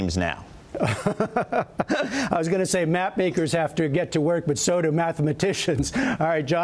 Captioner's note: laughter